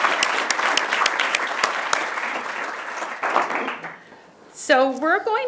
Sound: applause

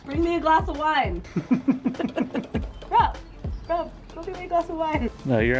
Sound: both laugh

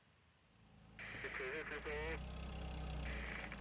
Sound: police radio static

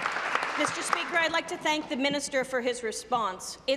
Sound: applause

